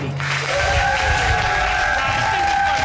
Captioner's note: cheers, applause